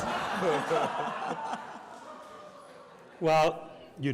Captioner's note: audience laughs